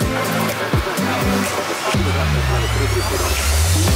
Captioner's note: radio chatter